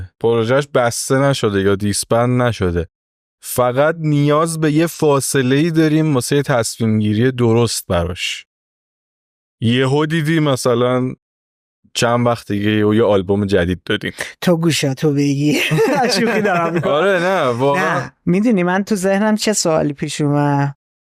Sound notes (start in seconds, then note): 15.6 laughs